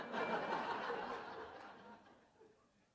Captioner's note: laughter